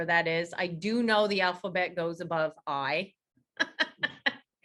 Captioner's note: laughs